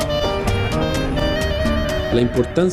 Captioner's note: speaking spanish